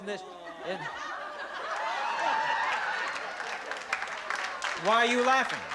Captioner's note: laughter